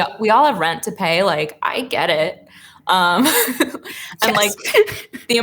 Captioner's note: laughs